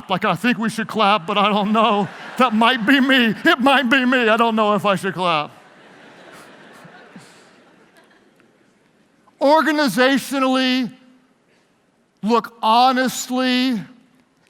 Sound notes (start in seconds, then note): 5.7 laughing